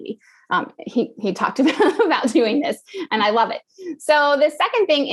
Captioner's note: laugh